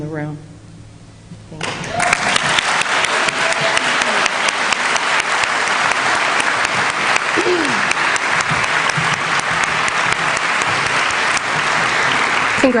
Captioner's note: applause